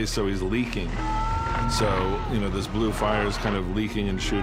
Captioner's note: yells